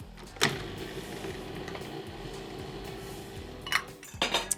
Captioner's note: food processor whirring